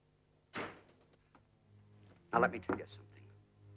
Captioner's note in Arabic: يُغلق الباب بقوة